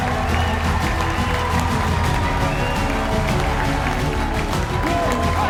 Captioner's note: audience cheers and applauds; upbeat music continues